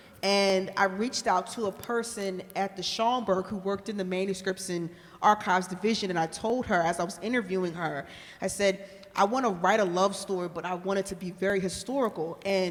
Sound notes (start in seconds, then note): none